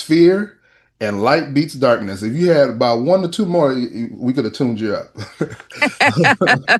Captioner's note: laughter